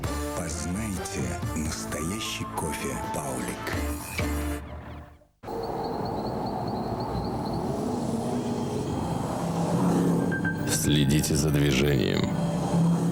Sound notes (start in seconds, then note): 5.4 the noise of the motor